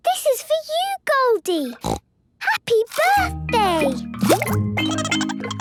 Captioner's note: snorting; Goldie giggling